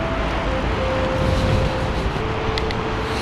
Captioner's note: wind Blowing